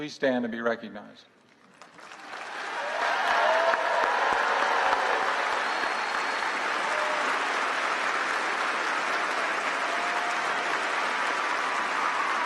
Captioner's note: applause